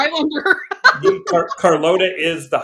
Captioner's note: laughs